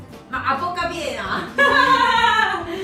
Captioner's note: laughs